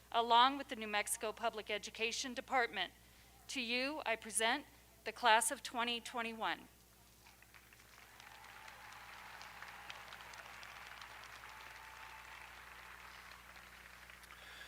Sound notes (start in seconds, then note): 7.3 audience applauding; 7.8 audience cheering